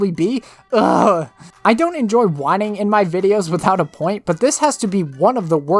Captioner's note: overly dramatic groan